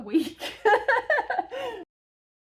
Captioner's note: laughing